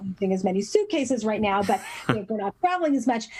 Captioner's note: laugh